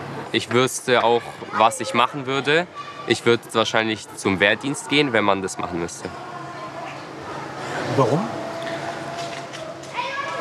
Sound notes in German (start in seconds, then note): 8.7 Schulhoflärm